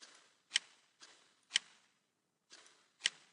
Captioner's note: clicking